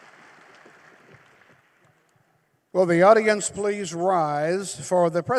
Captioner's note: applause